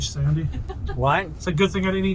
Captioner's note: woman laughs